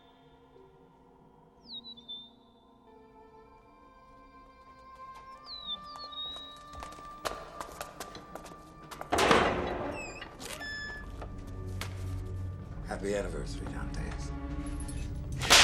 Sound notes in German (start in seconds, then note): 5.6 Schritte nähern sich